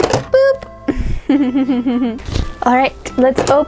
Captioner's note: giggling